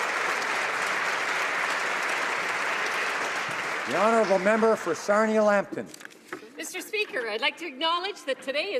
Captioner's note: applause